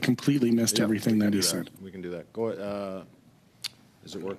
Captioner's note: speaking French